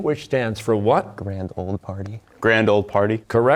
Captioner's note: whispering